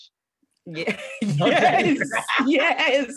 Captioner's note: laughs